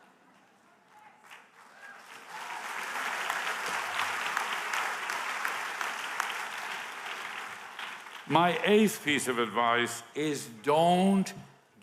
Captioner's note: applause